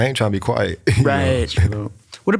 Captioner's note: chuckles